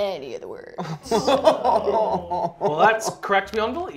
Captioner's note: laughter